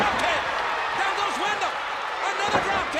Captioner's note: audience cheers